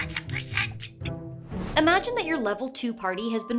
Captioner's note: whoosh